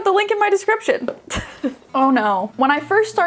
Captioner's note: chuckling